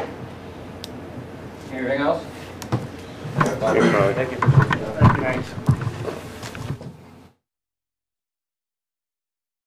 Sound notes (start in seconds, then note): 3.5 men speaking faintly